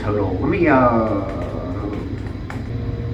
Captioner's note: frenzied typing